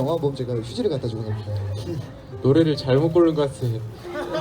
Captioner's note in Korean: 웃음